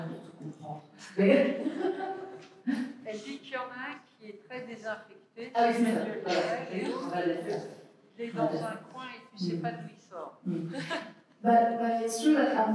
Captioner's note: french